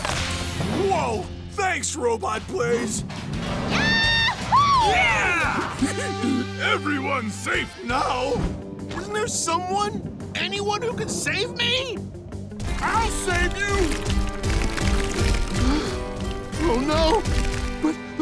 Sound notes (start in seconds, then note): 5.5 laughing; 15.4 gasping